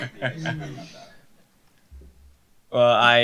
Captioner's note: laughter